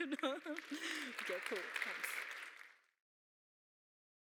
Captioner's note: audience applauds